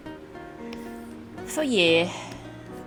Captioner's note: sigh